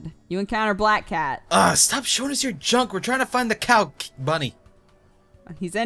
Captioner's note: cry